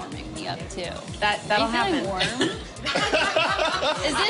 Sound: laughter

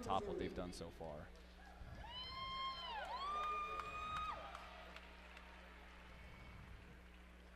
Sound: cheering and appluase

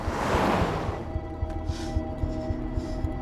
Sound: breathing heavily

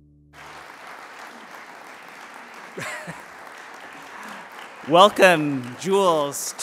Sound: applause

